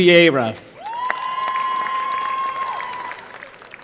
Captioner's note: applause